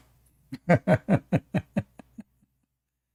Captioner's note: Ketawa